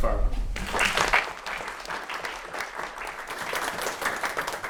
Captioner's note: applause